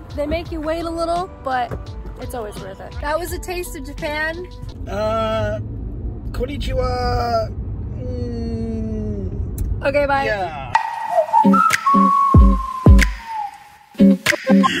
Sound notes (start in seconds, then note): 5.2 speaking in foreign language; 10.7 cheerful music